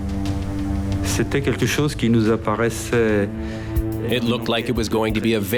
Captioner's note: speaking in foreign language